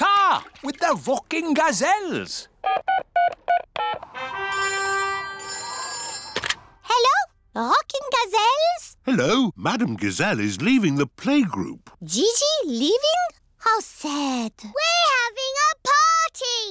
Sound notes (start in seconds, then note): 2.7 dialing; 4.5 phone rings